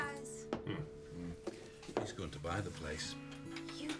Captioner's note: men grunting